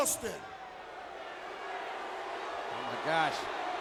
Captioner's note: audience booing